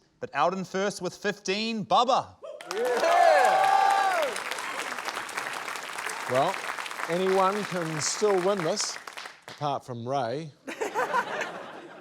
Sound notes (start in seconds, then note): 2.5 cheering; 2.6 applause; 10.6 laughter